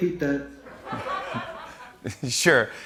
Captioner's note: laughter